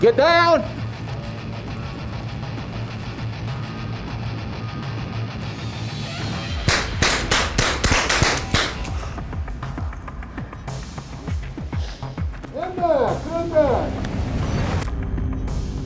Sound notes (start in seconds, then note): 4.0 dramatic music; 6.6 gun shots